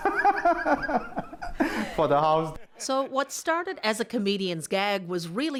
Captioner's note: laughter